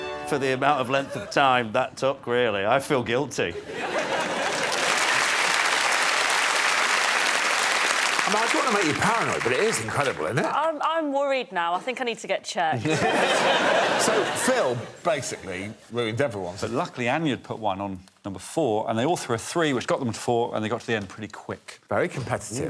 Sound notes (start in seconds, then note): 7.0 applause; 15.1 laughter